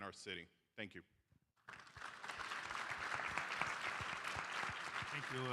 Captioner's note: applause